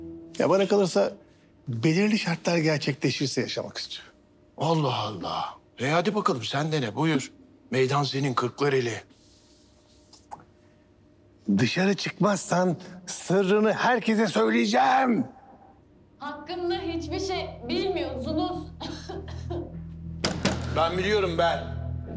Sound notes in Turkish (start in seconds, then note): 18.7 Pilot öksürüyor